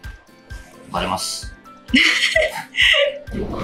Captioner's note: laughs